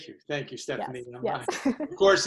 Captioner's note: laughs